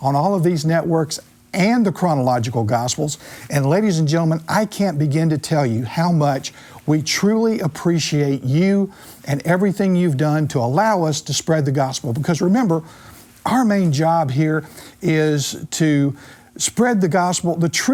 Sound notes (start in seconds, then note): none